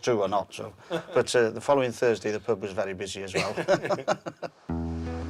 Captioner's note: laughs